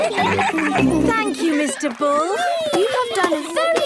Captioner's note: giggling